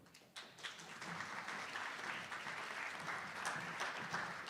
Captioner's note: attendees applauding